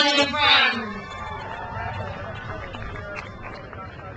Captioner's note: crowd cheers